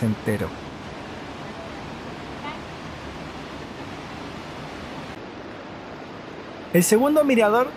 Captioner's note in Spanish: sonido ambiente cascada